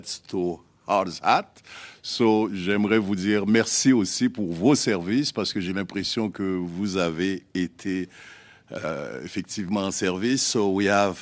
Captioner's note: speaking French